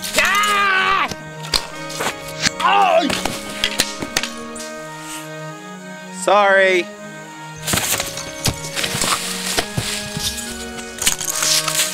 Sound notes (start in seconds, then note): 0.0 bow twangs; 0.1 yells incoherently; 2.2 arrow hits; 2.5 cries out; 2.9 body slams into ground; 7.6 staff thumps; 7.6 body slams into ground